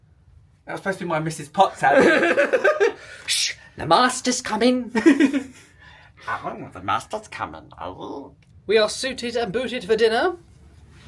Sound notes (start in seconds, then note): 1.8 laughing; 4.9 laughing; 6.5 mimics Stitch